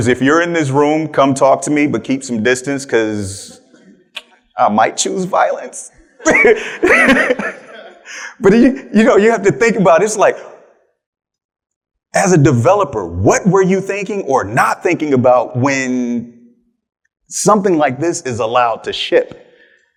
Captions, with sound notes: If you're in this room, come talk to me, but keep some distance 'cause I might choose violence. (laughing) But you know, you have to think about it's like as a developer, what were you thinking or not thinking about when something like this is allowed to ship,